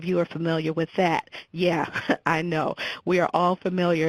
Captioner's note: chuckles